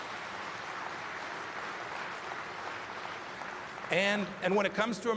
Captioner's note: applause